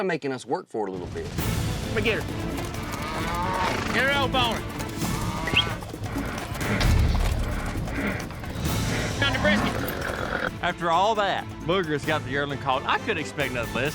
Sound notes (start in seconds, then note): 5.4 whistling; 8.5 mooing, grunting